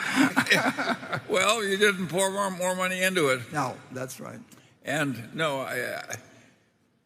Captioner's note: laughs